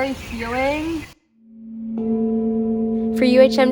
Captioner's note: tones